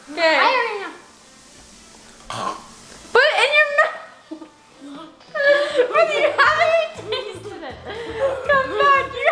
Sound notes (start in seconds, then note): 2.2 choking; 8.2 laughing